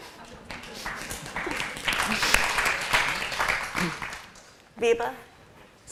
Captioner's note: applause